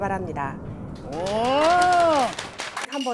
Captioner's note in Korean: 박수갈채